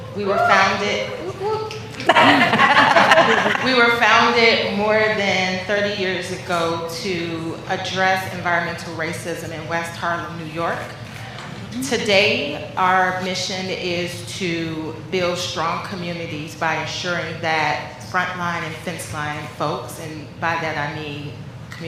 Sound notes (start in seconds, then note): 4.2 laughter